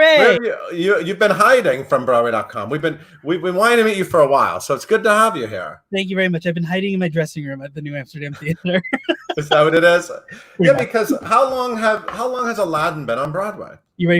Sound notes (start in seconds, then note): 8.4 laughs